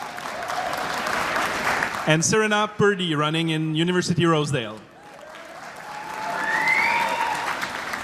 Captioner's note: applause